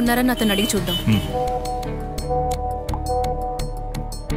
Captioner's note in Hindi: फ़ोन की घंटियाँ